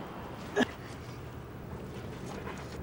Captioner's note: grunts